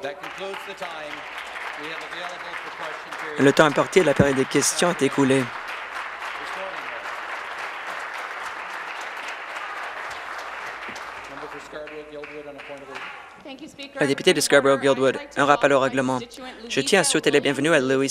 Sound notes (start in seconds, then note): 10.3 applause